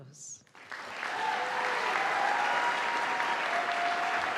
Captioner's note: audience applauding